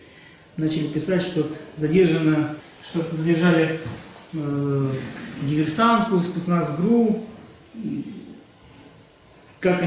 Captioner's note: Russian